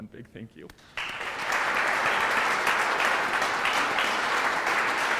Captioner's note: audience clapping